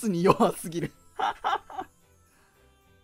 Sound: laughs cause its true

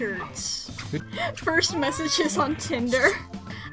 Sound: through laughter

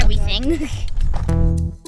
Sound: chuckles

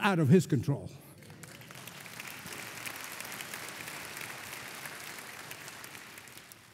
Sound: congregation applauding

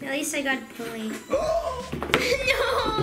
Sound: gasps

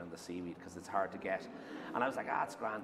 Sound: laughter

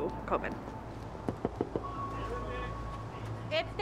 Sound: knocking on door

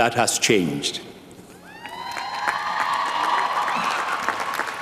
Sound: applause

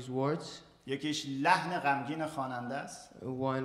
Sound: speaking in farsi

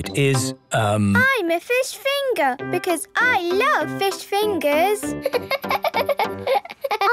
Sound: laughing

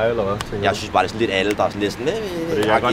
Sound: whining noices

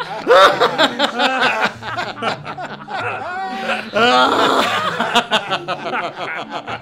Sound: laughing; maniacal laughter

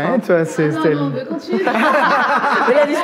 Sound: laughs

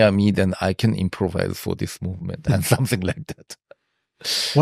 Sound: laughs

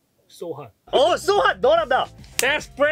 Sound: speaking in Korean

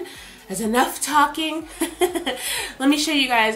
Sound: laughs

